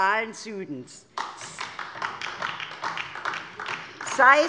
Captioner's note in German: Beifall DIE LINKE